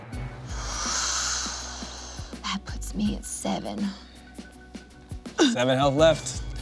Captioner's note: inhales